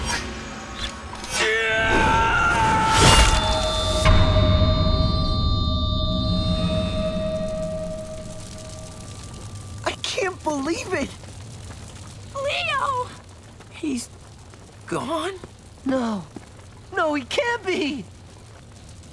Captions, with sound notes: [screaming] I can't believe it. Leo! He's... gone? No. No, he can't be!